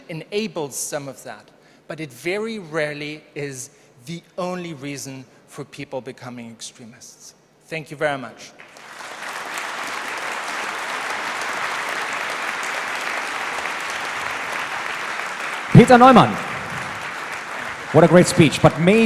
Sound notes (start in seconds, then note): 10.8 applause